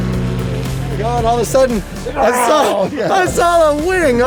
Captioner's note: guy roars